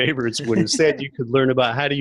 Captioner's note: everyone laughs